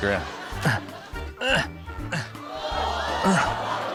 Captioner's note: grunts; audience exclaims